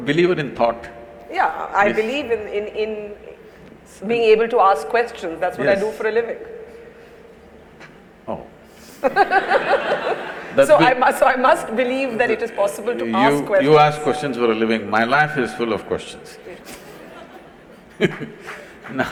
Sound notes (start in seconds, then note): 9.0 laughter; 16.7 laughter/Applause